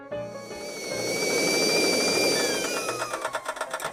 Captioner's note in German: Kessel pfeift